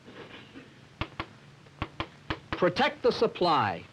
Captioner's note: chalk tapping